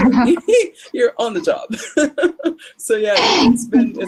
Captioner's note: chuckles